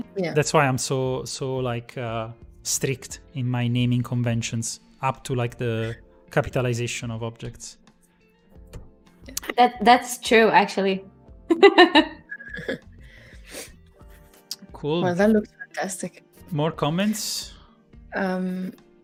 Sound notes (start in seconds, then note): 11.5 laughs